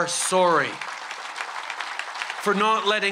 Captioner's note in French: Applaudissements soutenus